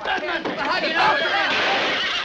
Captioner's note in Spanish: relincha